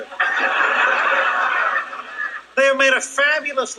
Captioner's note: audience laughing